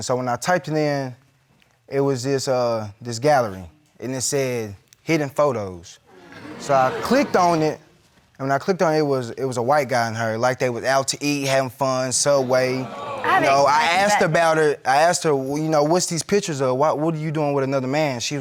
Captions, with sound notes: So when I typed it in, it was this gallery, and it said "Hidden photos." So I clicked on it, When I clicked on it, it was a white guy and her, like, they were out to eat, having fun, so white. (CROWD BOOS) I have an explanation for that I asked about it, I asked her, you know, what's these pictures? What are you doing with another man?